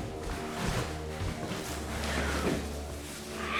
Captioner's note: rustling